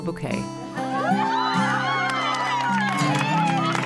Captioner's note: cheers